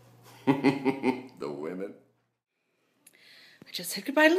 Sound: wicked Laugh

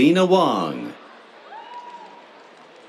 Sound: cheers

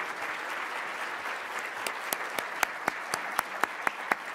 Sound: clapping

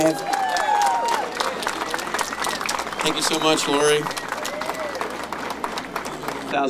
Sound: cheering

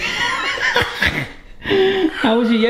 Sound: laughing

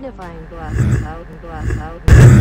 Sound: weird grunting sounds; really loud grunt

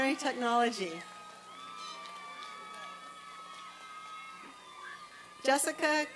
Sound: applause and cheering

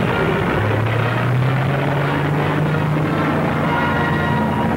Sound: plane roaring; dramatic tense music

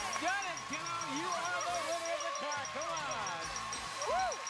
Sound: audience applauding

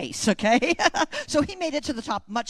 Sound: laughter

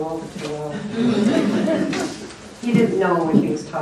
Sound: laughter

